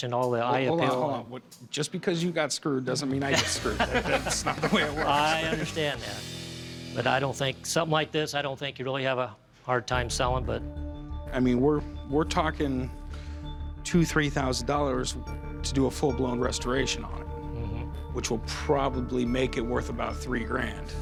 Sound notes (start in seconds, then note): 3.2 laughter